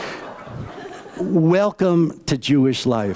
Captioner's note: laughter